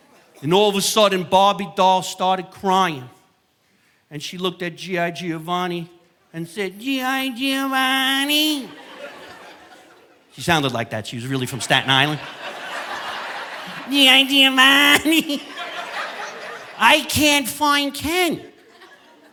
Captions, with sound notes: And all of a sudden, Barbie Doll started crying and she looked at G.I. Giovanni and said, "G.I. Giovanni." She sounded like that. She was really from Staten Island. (audience laughing) "G.I. Giovanni, (chuckles) I can't find Ken anywhere, no."